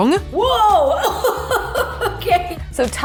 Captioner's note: laughs